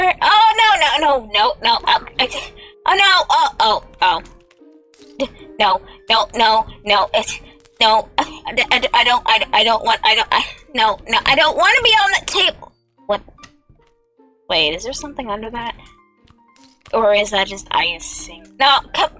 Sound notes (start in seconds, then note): 7.9 tiny laugh